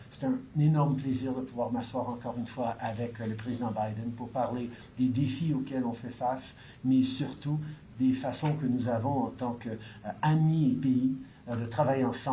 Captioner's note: speaks in French